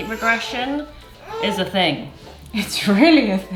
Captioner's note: whines